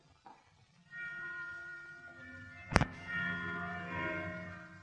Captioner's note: bells chiming